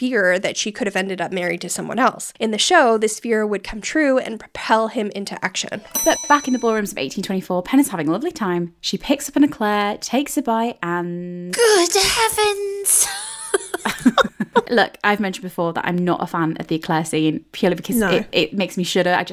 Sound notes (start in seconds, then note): 5.9 bell dings; 12.9 laughing